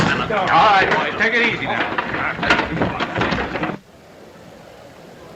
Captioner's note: scuffle